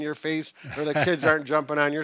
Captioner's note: chuckling